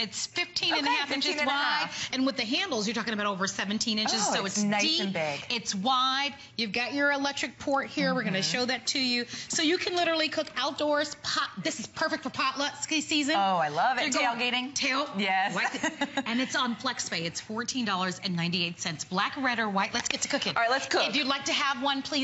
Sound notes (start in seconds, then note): 15.6 laughter